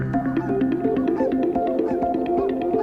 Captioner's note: geese honking